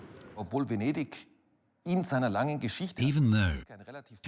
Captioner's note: speaks in foreign language